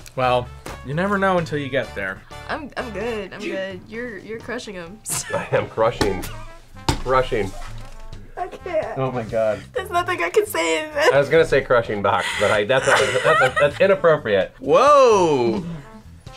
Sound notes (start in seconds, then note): 8.7 laughs